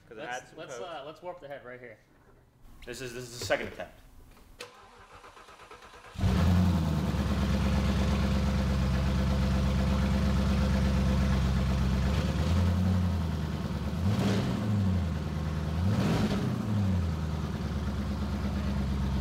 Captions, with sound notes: 'Cause (speaking faintly) - This is, this is the second attempt. (car engine running) (car engine revving)